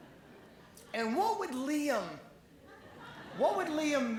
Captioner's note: laughing; laughing